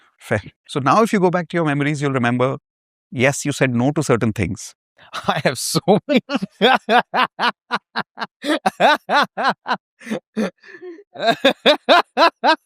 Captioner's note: laughter